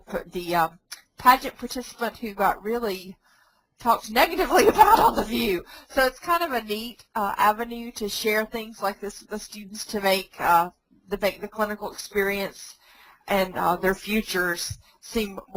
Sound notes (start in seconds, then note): 4.4 laughs